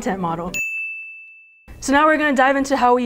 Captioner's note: dinging